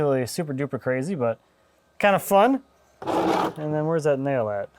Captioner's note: bucket scrapping